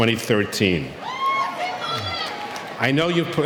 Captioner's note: audience cheering